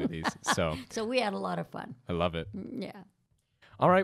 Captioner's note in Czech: Chichotá se